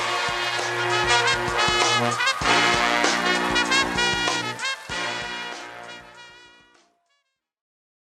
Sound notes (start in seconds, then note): 0.0 cheers; 3.7 music fades